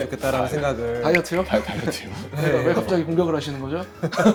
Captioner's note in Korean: 웃음